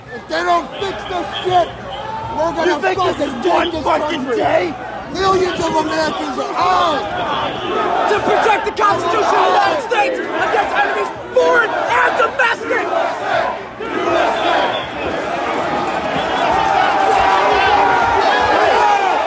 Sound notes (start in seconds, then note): 0.0 crowd laughing and murmuring; 13.3 crowd; 15.7 crowd yelling